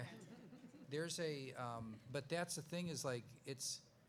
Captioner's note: laughs